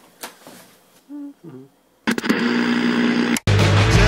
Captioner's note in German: summt